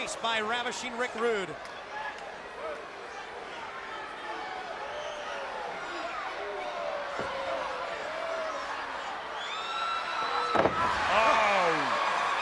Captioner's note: crowd chatter